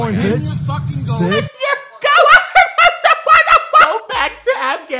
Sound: loud confusion laughter

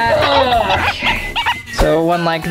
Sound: grunts

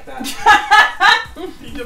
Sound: laughs

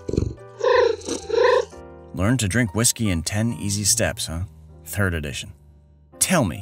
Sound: meow

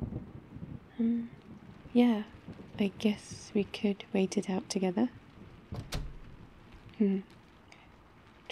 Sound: door closes

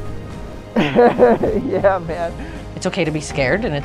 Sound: laughs

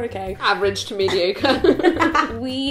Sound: laughing

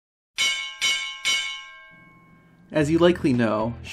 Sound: bell ringing

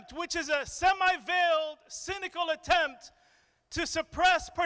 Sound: none

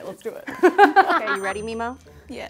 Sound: laughing

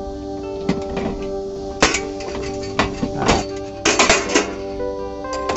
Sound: ambient music; metal clanking; ambient music

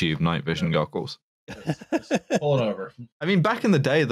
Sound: laughs

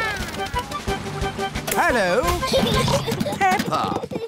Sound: children giggling

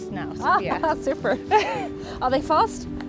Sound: chuckles

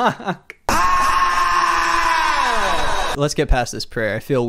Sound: laughs; screams

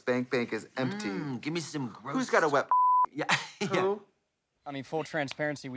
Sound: beep

